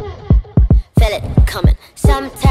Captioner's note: breathing